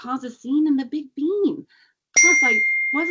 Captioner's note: cellphone chimes